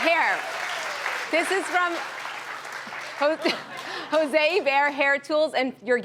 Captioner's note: laughs